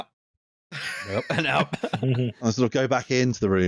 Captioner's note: laughter